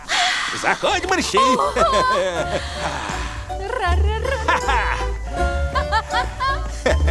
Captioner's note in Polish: oboje triumfalnie się śmieją